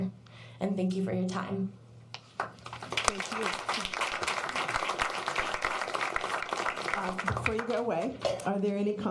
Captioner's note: applause